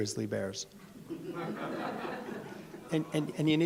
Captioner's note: audience laughs